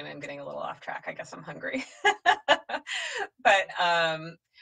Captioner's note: laughs